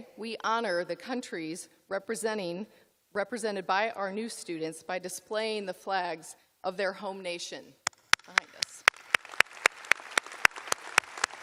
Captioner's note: applause